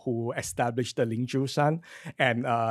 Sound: foreign speech

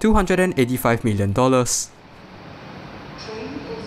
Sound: train is arriving

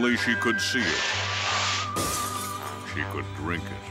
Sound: glass shatters

